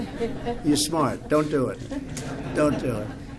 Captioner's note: laughter